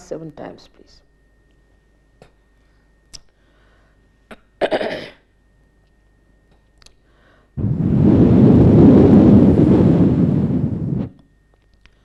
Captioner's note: Shri Mataji blows into the microphone